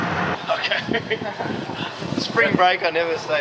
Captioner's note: chuckles